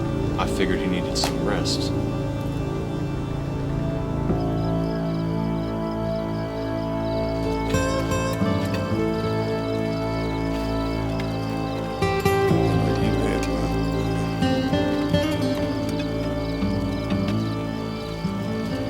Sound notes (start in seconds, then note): 4.5 crickets chirping